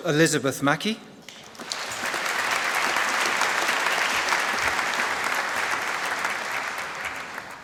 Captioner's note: applause